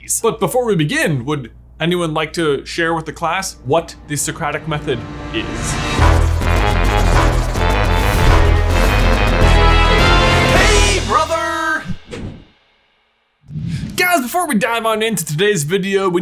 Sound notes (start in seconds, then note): 6.0 upbeat instrumental music; 11.8 logo whooshing